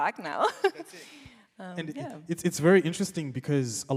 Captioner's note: laughs